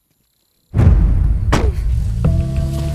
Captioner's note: Car door closing